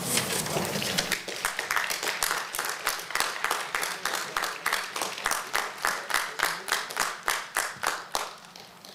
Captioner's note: applause